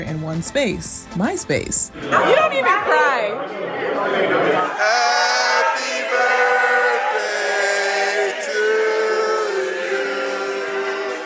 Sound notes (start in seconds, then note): 5.1 crowd